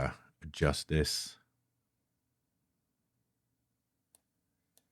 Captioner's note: mouse clicking